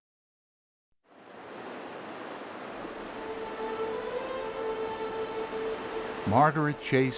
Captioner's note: water rushes; soft dramatic music